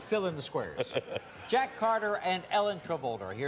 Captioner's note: laughs